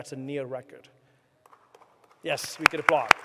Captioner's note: applause